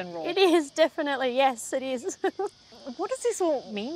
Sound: laughs

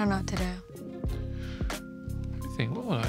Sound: inhales

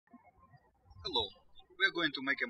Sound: birds chirping

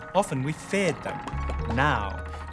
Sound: bubbles popping

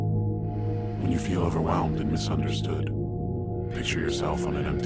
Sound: low Voice

